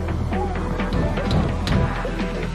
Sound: knock knock

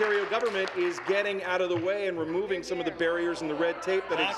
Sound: applause

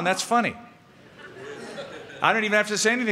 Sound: laughter

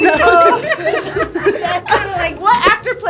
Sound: all laugh

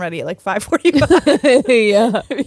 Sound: both laughing

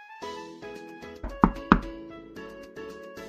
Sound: knocking sound

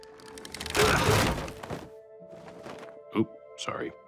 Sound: wood snapping; wood creaking

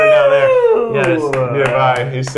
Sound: cheering

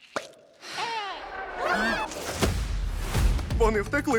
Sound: all exclaim

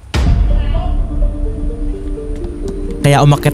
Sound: man shouting

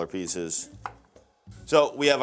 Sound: knife chopping

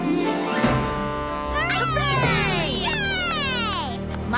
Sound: cheering

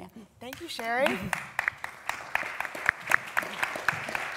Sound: applause

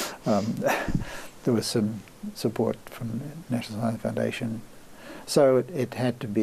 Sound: laughs

